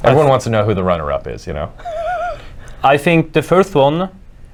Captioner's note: laughs